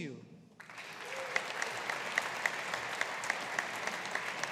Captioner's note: audience applauding